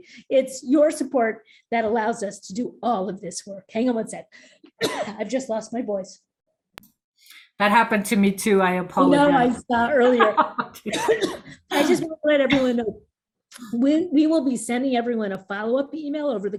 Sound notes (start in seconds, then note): 4.8 coughs